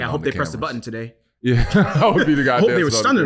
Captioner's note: laughing